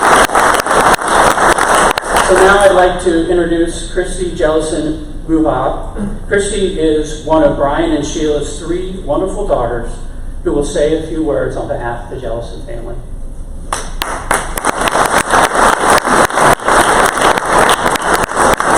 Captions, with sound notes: Now I'd like to introduce Christie Jellison Mucha. Christie is one of Brian and Sheila's three wonderful daughters who will say a few words on behalf of the Jellison family. (crowd applause)